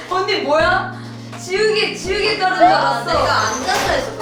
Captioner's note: hahaha